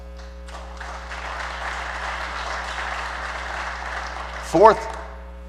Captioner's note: applause